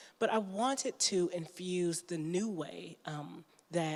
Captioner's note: none